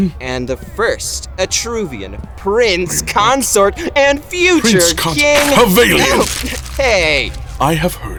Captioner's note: sounds of paper being snatched, torn up